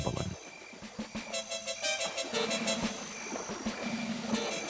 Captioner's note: water sloshing